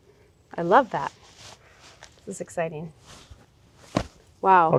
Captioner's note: hand thud